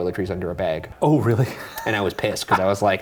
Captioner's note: chuckles